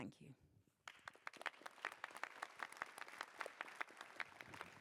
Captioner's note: applause